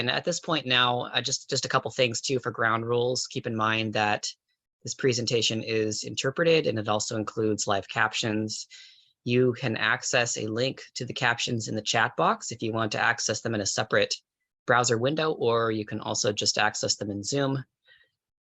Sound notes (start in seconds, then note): none